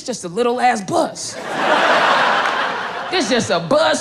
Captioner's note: crowd laughing